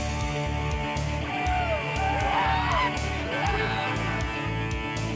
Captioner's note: rock music; cheering